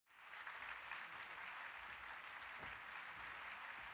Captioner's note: applause